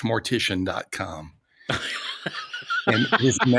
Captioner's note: laughing